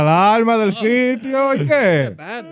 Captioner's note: speaking In Foreign Language